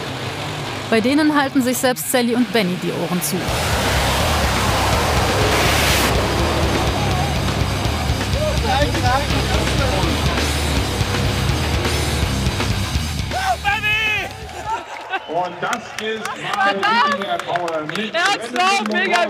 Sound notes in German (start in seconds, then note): 4.7 Dröhnendes Motorenheulen, Metal-Musik; 14.2 Lachen